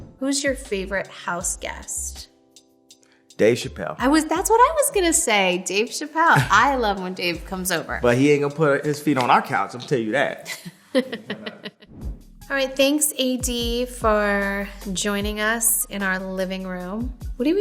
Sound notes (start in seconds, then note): 10.1 laughing